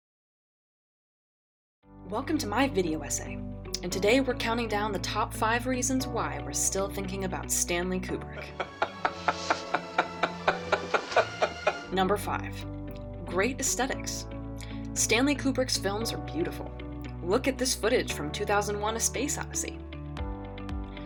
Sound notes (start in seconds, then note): 8.4 laughs in pain